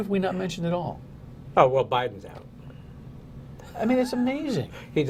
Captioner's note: laughter